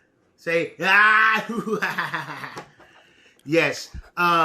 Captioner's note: laughs